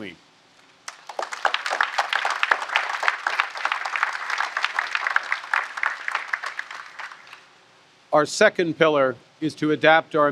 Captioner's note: applause